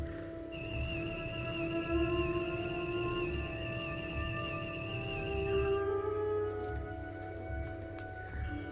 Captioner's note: Tri-corder scanning sound